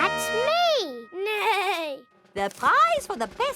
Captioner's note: neighs